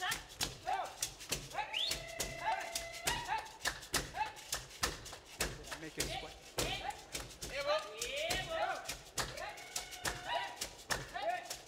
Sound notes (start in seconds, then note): 0.0 hands clapping and beads rattling; 0.3 shouting and beads rattling; 5.6 shouting and beads rattling